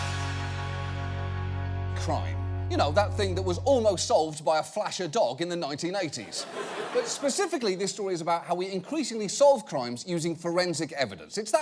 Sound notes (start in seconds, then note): 6.2 audience laughing